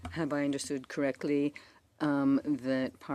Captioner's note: speaking in French